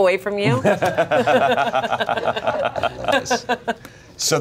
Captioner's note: everyone laughs